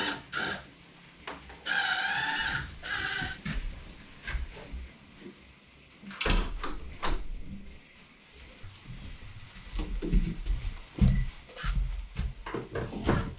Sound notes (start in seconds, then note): 0.0 drill whirring; 6.3 door clicking